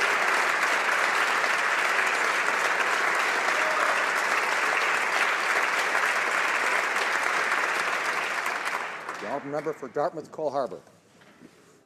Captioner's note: applause